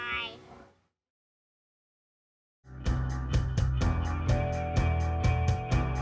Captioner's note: kids talking to each other